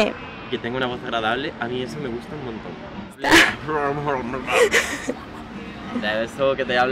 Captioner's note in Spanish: pone voz gutural